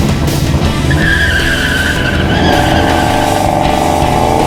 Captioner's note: engine revs; tires squeal; intense energetic rock music